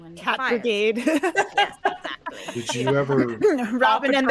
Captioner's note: laughing